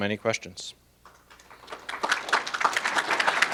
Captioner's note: applause